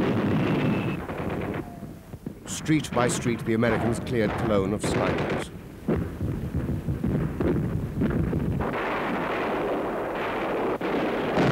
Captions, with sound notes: Street by street the American's cleared Cologne of snipers. (booming) (guns firing)